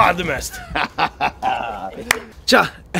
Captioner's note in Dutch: Evil laugh